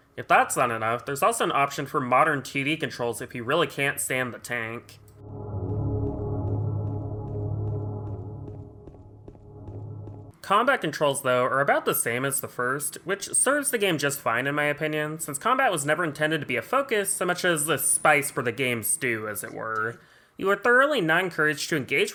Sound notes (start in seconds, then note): 5.0 atmospheric noises while James goofs around